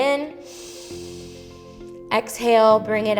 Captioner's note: inhales